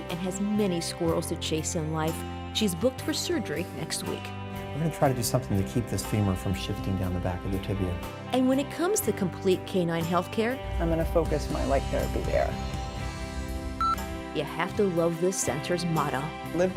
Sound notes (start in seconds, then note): 13.8 beep